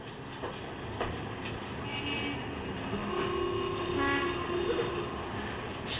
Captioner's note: horns Honking